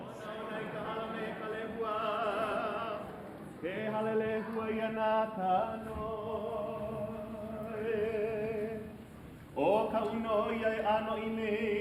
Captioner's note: chanting in Hawaiian language